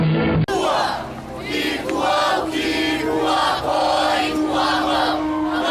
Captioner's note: chanting in foreign language